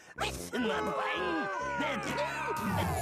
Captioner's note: audience booing